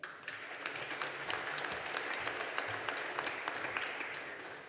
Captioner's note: audience applauding